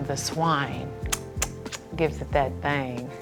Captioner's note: smacks lips